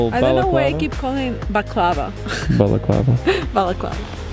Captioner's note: giggles